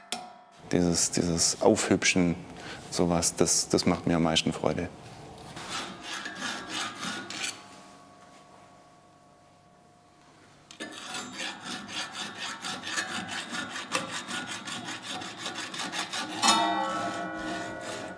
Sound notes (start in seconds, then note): 5.5 filing sound; 16.4 bell-like sound